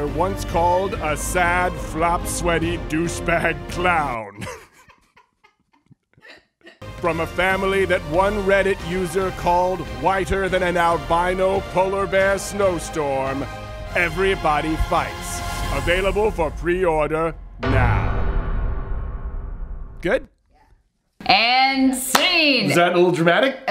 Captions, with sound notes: once called a sad flopsweaty douchbag clown, (laugh) from a family that one Reddit user called whiter than an albino polar bear snow storm, Everybody Fights. Available for preorder, now. Good? - And scene. - Was that a little dramatic?